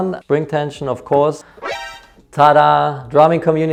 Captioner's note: alarmed noise